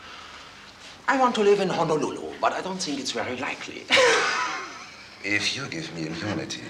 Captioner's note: laughs